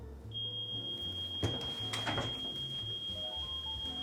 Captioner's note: alarm beeping